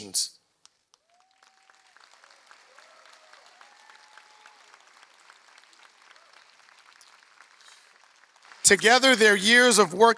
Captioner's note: applause